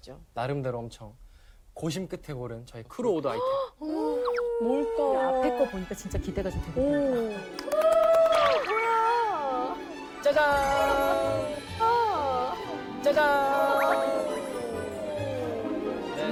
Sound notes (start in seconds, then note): 7.5 clapping even before